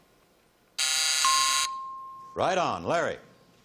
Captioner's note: buzzing